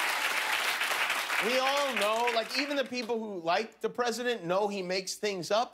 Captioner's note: cheers and applause